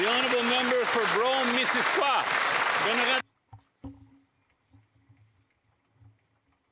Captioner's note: some Applause